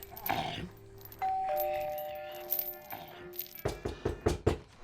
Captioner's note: zombie walter grumbling; doorbell ringing; fist knocking